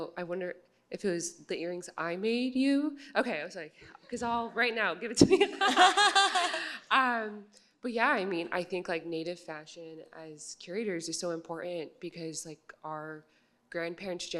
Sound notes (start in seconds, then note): 5.2 laughter